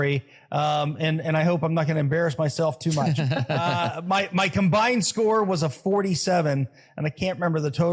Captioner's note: laugh